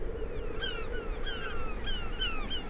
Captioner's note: gulls calling